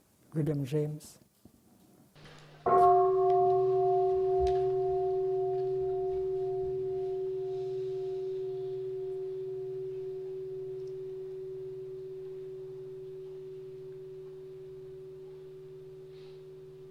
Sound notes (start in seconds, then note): 2.2 the sound of the bell